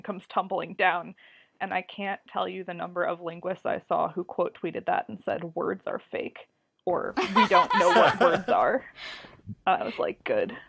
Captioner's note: laugh